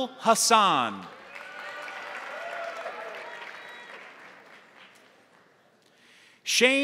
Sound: crowd applauding; crowd cheering

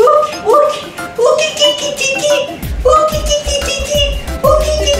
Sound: monkey sounds

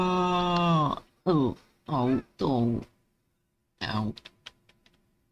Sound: pain noises

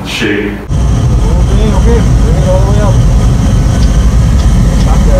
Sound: turbines spooling up

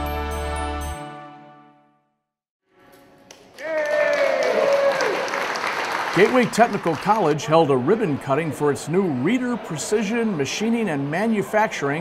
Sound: clapping

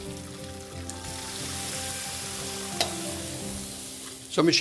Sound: pan sizzling

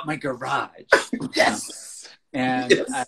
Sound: laughs

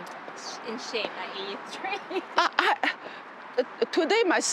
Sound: laughs

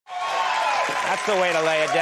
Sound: audience cheers

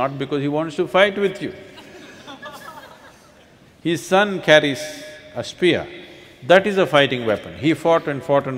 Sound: laughter

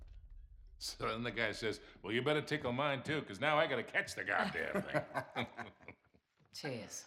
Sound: laughs

